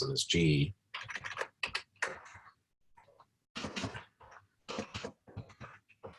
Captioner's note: typing Sounds